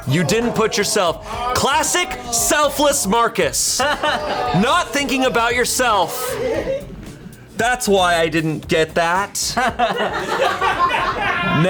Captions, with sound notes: - You didn't put yourself classic, selfless, Marcus. (colleagues gasping) Not thinking about yourself. That's why I didn't get that. (colleagues laughing)